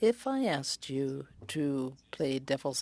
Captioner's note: speaking French